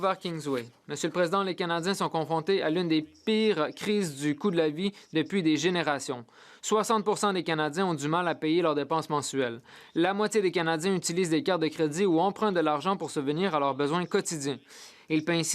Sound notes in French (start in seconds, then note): 3.9 voix de l'interprète